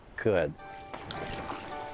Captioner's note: splash